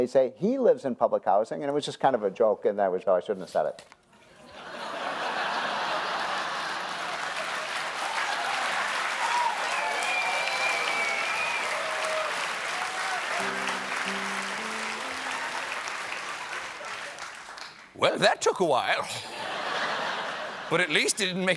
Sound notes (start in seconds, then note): 5.9 cheers and applause